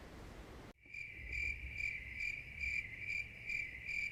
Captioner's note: insects chirping